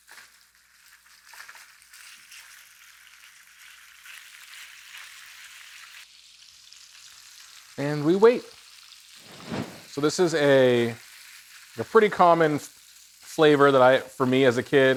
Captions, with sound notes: (food sizzling) And we wait. (screen whooshes) So this is a pretty common flavor for me as a kid,